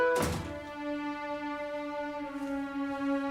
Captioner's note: door closes